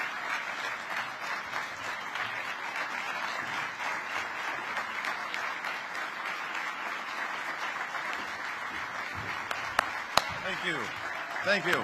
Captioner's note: applause